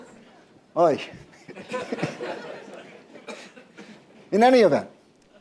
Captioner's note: laughter